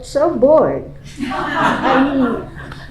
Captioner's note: laughing